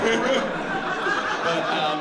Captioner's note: laughter